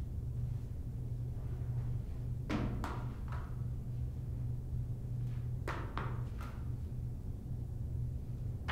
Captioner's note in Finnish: Pallon pomppimisääniä